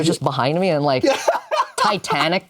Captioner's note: laughs